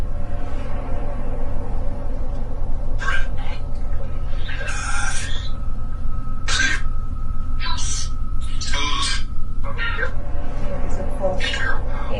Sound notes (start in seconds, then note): 0.3 creepy music; 3.4 EVP warbles